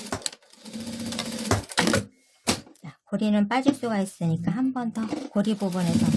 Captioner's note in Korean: 미싱소리